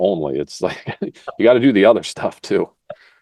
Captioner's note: laugh